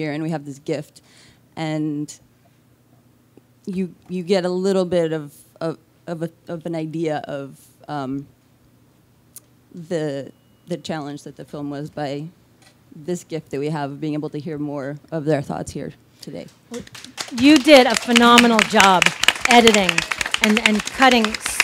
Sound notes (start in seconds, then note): 16.7 audiences claps and cheers